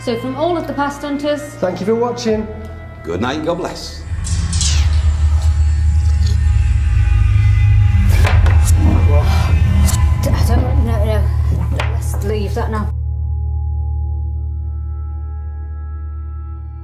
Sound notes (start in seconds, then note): 4.6 creepy music; 7.9 gasps